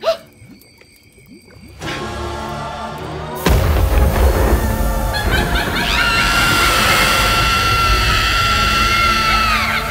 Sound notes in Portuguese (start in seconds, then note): 1.7 música de terror; 3.4 estrondos; 5.0 risos malignos e gritos